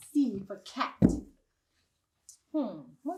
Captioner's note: heavy stomp